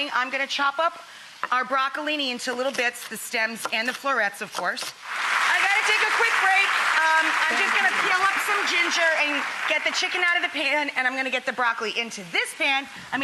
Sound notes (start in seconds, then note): 5.0 audience applauding